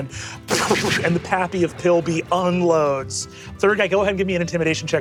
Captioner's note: mimics gunshots